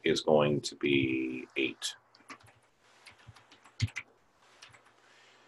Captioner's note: typing Sounds